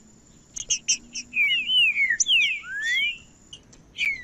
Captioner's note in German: trinca ferro cantando